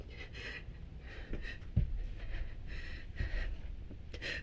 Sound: Marla gasping

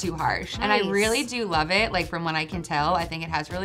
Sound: bell dings

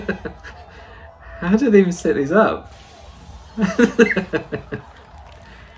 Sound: chortles at someone's terror

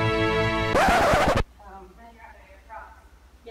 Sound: record screeches

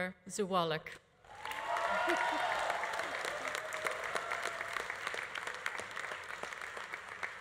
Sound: audience applauding; audience cheering

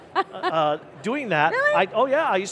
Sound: laughs

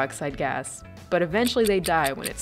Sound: timer ticking

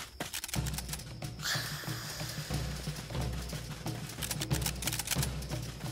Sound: guns cock; dog hisses; guns cock

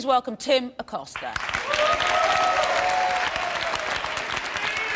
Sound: cheering

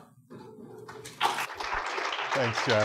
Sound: applause

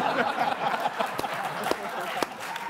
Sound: audience applauds

